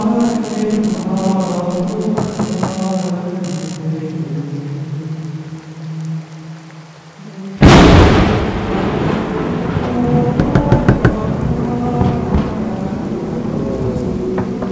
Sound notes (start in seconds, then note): 7.6 thunder Strikes; 7.6 someone Knocking on The Door